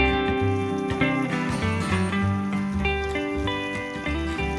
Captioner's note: water spraying